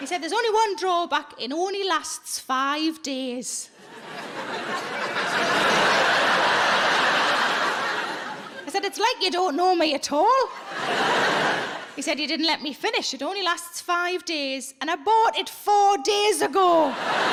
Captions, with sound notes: He said, "There's only one drawback, it only lasts five days." (audience laughing) I said, "It's like you don't know me at all." He said, "You didn't let me finish. It only lasts five days and I bought it four days ago."